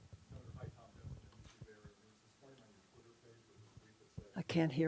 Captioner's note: reporter speaks off camera